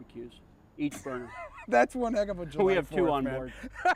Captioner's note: laughs